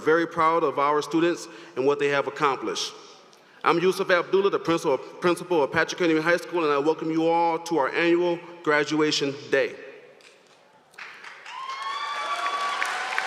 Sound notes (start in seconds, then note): 8.4 applause